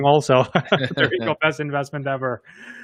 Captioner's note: laughs